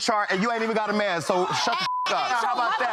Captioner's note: beep